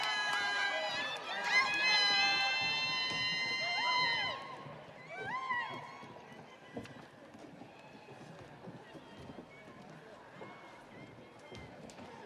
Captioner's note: audience applauding; audience cheering